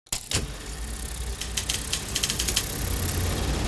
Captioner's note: film reel rattling